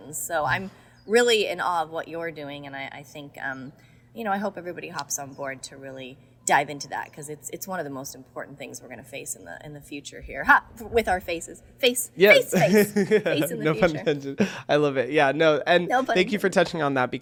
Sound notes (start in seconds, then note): 12.2 Hyram laughs